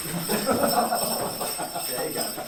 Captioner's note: laughter